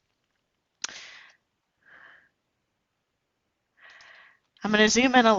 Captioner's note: breath